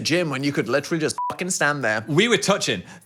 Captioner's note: beep